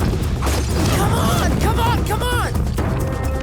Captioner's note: none